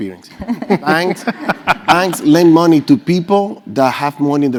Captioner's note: laugh